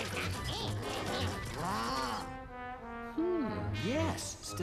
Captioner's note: babbling